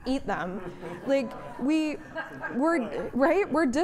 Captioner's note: laughing